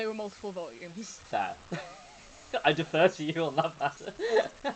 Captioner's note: laughing